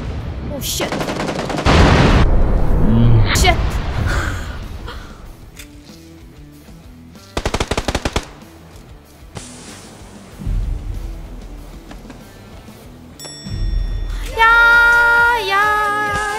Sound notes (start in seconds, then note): 1.6 boom